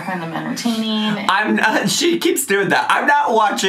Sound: laughing

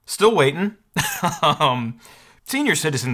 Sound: laughs

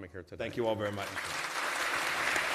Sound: applause

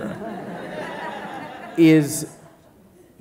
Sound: audience laughing

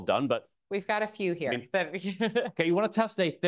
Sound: laughs

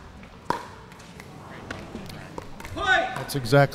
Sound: ball bouncing; crowd groaning

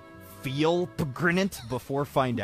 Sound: sounds of mark losing

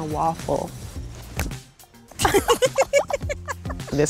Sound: giggles

